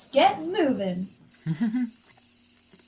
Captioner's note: chuckle